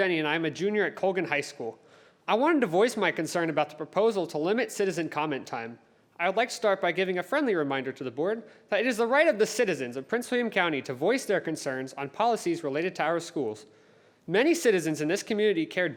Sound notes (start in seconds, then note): none